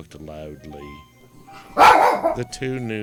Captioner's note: dog barking